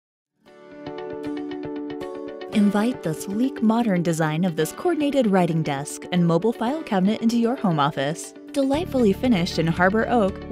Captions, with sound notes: (soft music) - [Voiceover] Invite the sleek modern design of this coordinated Writing Desk and Mobile File Cabinet into your home office. Delightfully finished in Harbor Oak